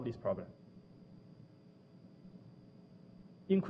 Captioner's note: pause